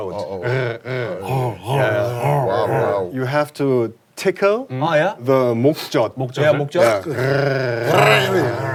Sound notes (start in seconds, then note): 0.2 is grrrr-ing